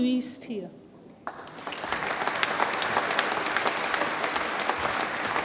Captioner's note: audience applauds